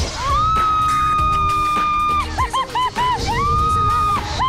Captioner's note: happy screams